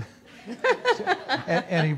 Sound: laughter

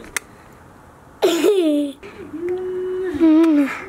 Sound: kisses; laughs

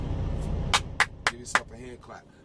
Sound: clapping

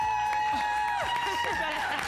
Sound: applause

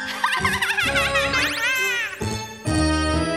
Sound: laughing

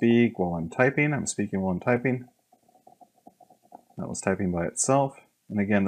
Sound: typing by itself

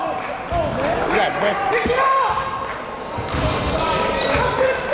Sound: cheering and yelling

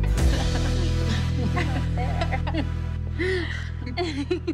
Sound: girls laughing

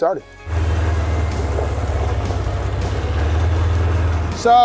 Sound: car engine roaring

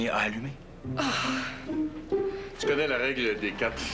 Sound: Soupir

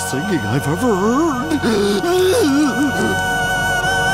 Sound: crying

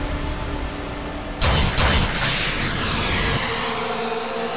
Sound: sound effects playing

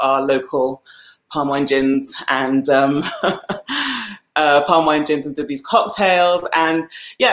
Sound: laughs

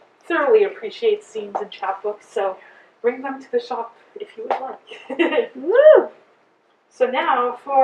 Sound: cheer

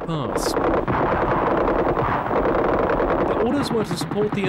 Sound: machine guns firing

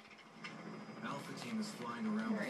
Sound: tv noises

